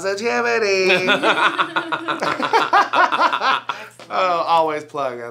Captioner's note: all laugh